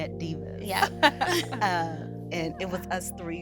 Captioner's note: women laughing